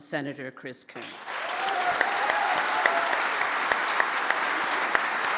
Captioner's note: audience applauds